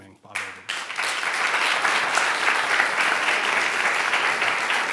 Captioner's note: audience applauding